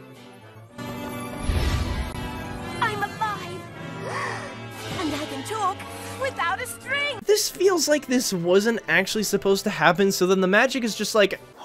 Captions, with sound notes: "I'm alive!" *gasps* "And I can talk, without a string!" This feels like this wasn’t actually supposed to happen so then the magic is just like